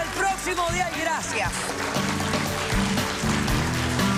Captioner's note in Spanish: aplausos